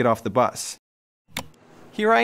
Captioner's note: click